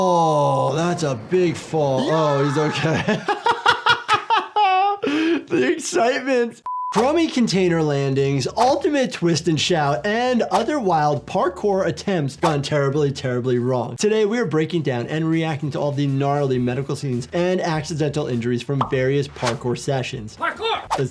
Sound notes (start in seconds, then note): 0.9 beeping; 1.9 laughing; 6.6 beeping